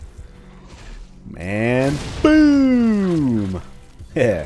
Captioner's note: kaboom; chuckles